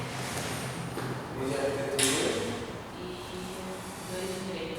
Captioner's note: small talking continues